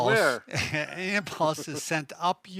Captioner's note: both laugh